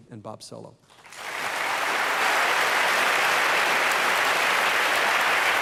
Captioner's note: applause